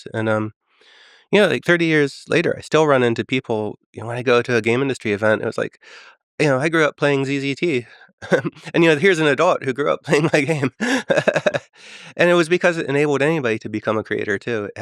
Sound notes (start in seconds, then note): 11.2 Tim laughing